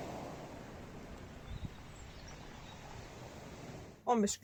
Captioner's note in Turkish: Doğa sesi